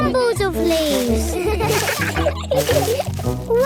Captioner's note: laughter